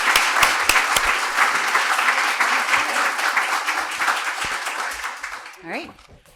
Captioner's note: applause